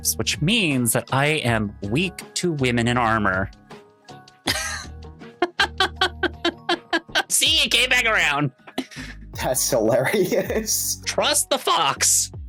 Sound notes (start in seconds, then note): 5.4 laughs